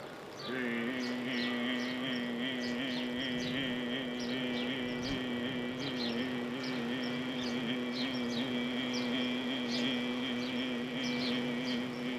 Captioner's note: humming